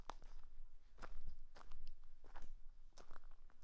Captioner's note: footsteps